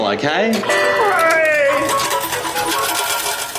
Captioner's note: cheers